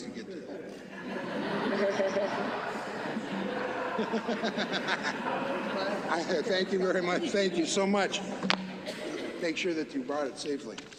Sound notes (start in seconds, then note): 3.0 laughter